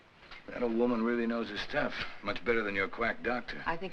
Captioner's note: none